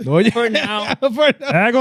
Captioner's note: speaking In Foreign Language